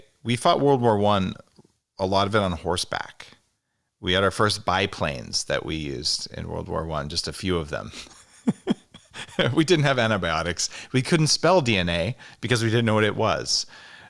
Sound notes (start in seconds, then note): 7.9 chuckles